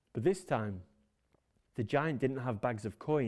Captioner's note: none